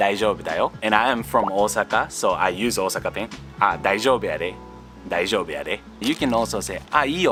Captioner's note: dialect